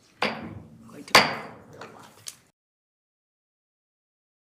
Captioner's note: gavel pounding